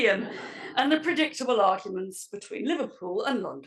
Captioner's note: laugh